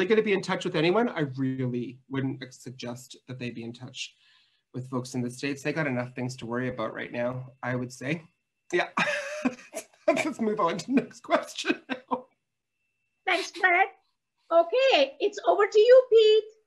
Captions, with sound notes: going to be in touch with anyone, I really wouldn't suggest that they be in touch with folks in the States. They got enough things to worry about right now, I would say. Yeah, let's move on to the next question. (laughing) - Thanks, Fred. Okay, it's over to you, Pete.